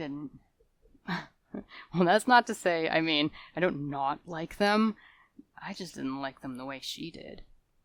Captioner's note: salacious laughter